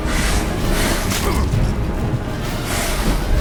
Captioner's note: groan